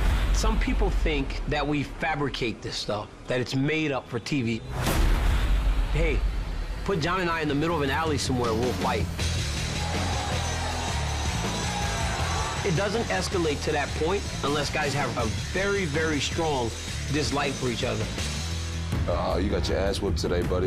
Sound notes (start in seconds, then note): 4.7 boom; 9.2 crowd reacts; 9.5 rock music plays